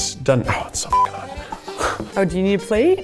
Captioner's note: beep